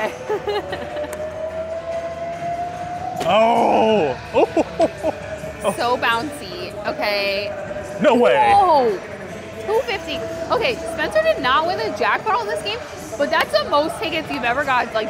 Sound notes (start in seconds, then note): 0.0 laughs; 3.2 groans; 3.5 laughs